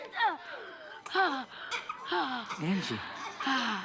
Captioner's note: panting